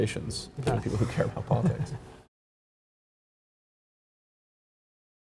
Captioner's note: chuckles